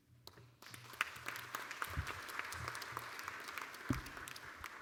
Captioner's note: applause